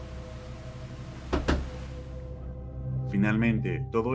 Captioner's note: knocks